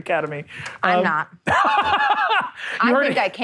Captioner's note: laughing